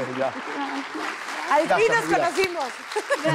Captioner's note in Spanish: Ríe